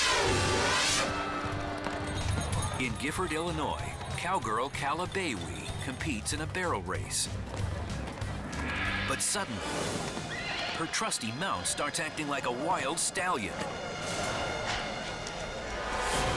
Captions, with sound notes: (dramatic music) (hooves stamping) In Gifford, Illinois, cowgirl Calla Boewe competes in a barrel race. But suddenly... (horse neighs) Her trusty mount starts acting like a wild stallion.